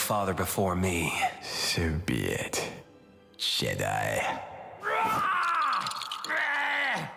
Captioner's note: roars